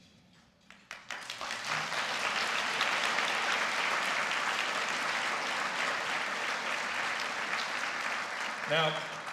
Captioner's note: applause